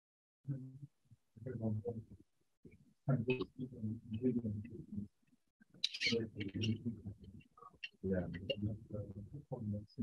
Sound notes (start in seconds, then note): 0.8 speaking faintly